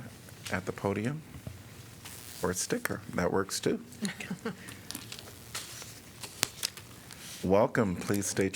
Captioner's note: laughter